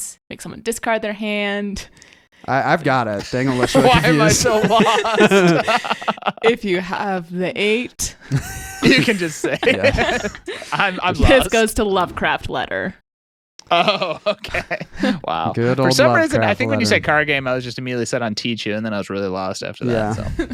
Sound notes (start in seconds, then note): 6.5 laughing